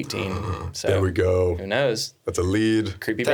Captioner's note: gasping